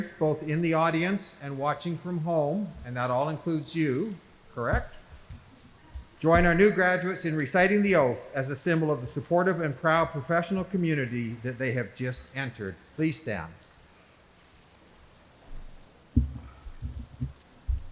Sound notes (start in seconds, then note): none